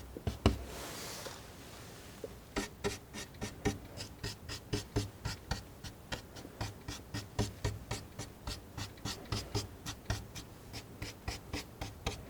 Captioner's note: tapping